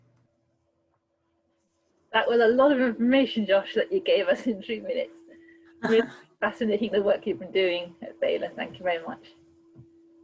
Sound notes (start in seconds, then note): 5.6 laughter